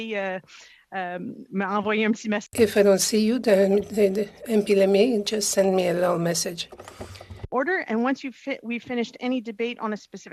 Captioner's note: speaking in French